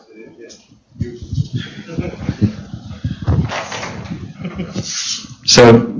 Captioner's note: laughs